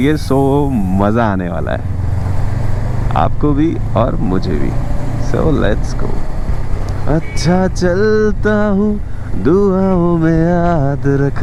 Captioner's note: humming